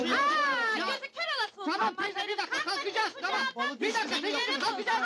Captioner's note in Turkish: bağrişma sesleri̇